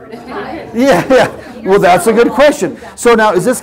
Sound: laugh

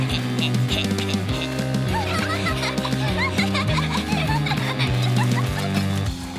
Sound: laughing

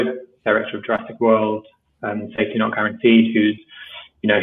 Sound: speaker speaking in low voice

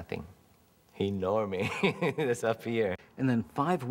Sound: laughs

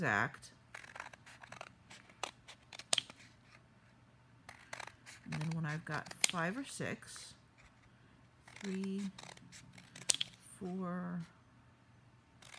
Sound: scissors cutting

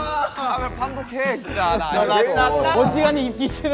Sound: arguing

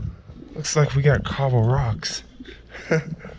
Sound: laughing

